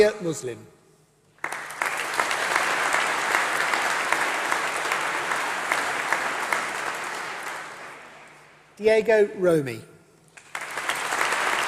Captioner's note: applause